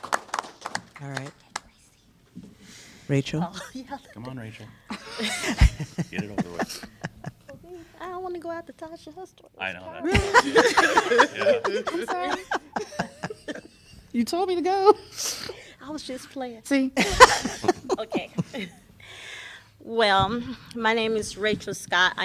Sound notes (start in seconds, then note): 4.9 laughter; 13.4 laughter